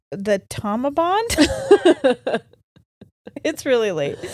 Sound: both laugh

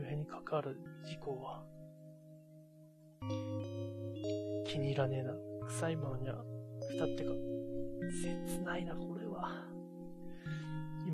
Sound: sigh

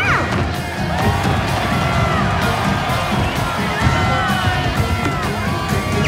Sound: crowd cheering

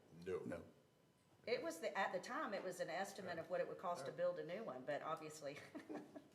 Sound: laughter

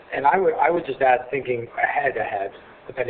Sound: none

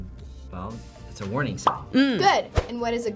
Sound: bubble pops

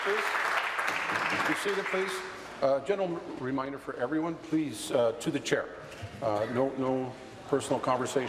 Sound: applause

